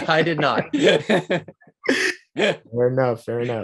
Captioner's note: both giggling